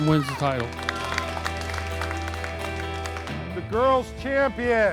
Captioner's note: people applaud; bright music